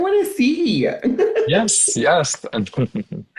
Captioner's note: laughs